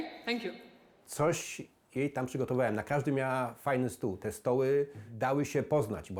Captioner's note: man speaking in foreign language